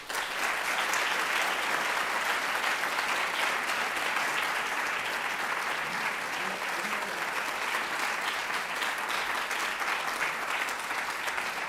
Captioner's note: applause